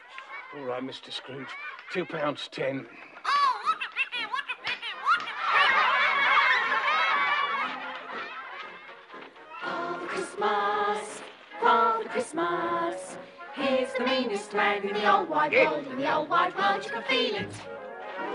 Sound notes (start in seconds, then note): 3.1 in squeaky voice; 9.7 singing